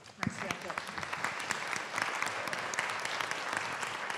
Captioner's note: audience applauding